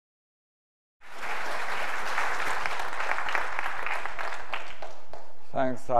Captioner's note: applause